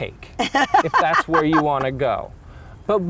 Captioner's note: laughing